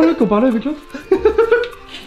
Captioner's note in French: rire